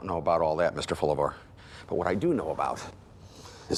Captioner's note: none